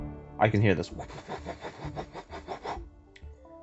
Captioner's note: imitates Helicopter Noises